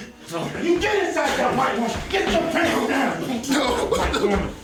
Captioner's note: sounds of struggling